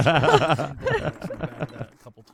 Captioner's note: laughing